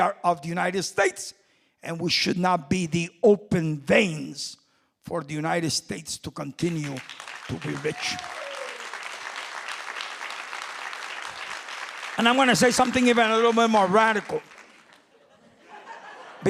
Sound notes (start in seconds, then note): 9.0 crowd cheering; 14.7 crowd laughing